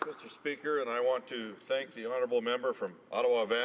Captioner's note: applause